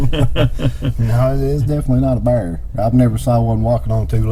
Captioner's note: chuckling